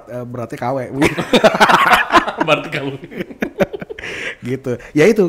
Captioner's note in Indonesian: ketawa